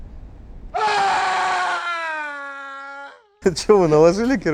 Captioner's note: Wilhelm scream